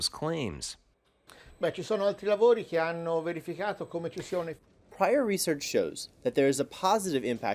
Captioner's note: through translator